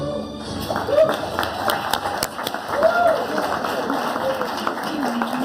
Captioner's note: audience applauding